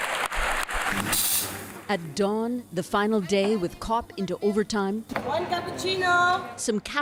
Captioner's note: applause